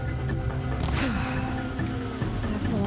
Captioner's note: sigh